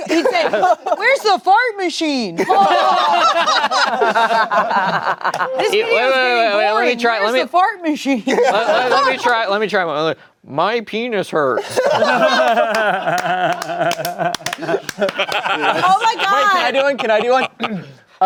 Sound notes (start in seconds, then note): 2.4 everyone laughing; 11.6 everyone laughing